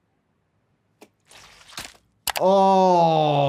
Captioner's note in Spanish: la carne chapotea